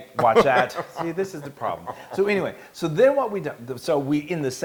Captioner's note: laugh